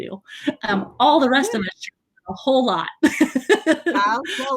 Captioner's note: laughs